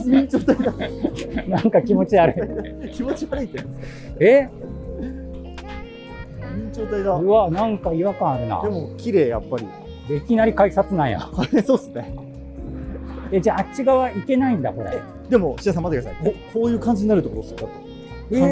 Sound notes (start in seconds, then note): 3.5 laughing